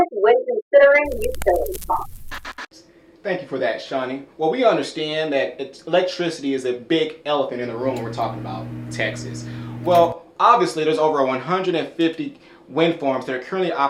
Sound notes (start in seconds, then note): 1.0 static noise